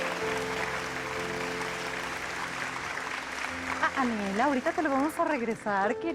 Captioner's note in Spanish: Aplausos